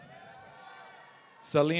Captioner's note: audience cheering